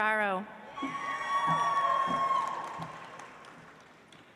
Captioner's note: audience applauds